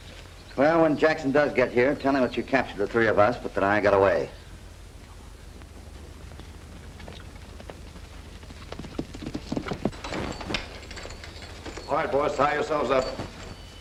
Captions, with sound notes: Well, when Jackson does get here, tell him that you captured the three of us, but then I got away. [ HORSE GALLOPING ] All right, boys, tie yourselves up.